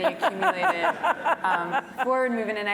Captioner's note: laugh